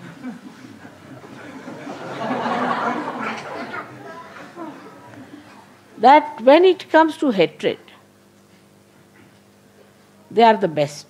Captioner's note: laughter